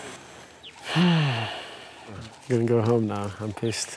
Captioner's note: sighs